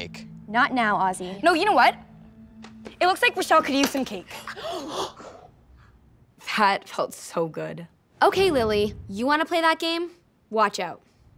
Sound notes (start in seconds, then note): 4.4 gasps